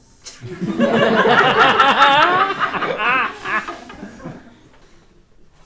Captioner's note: audience laughing